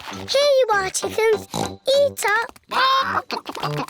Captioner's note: oinks